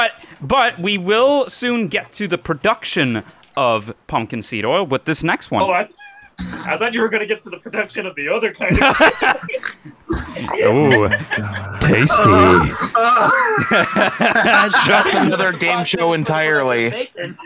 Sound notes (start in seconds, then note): 8.6 laughter; 10.1 moaning